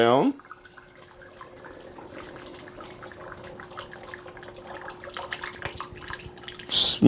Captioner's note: pouring